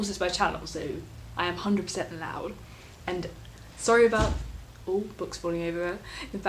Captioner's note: oh books falling over there in the background